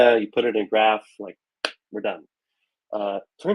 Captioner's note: claps hands